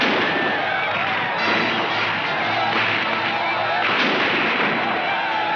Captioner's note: gunshots firing